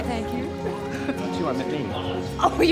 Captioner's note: both laughing